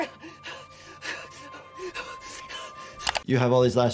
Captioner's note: panicked breathing